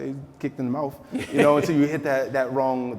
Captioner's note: laughing